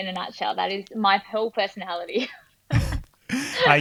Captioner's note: laughing